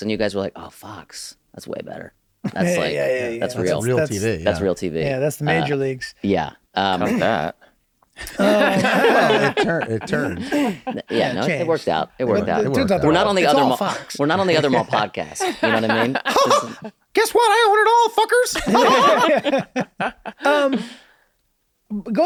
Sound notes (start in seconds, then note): 8.2 laughing; 16.8 imitates Mickey Mouse laughing; 18.5 laughter